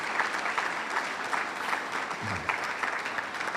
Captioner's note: audience applauds